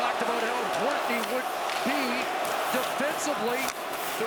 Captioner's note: chanting